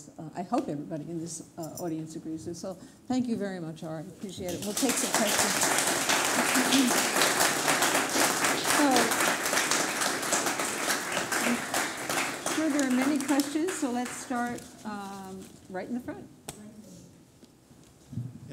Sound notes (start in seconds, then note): 5.7 applause